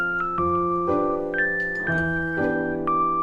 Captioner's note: rolling away